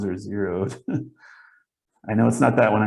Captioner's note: chuckles